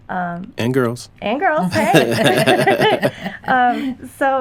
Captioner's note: laughter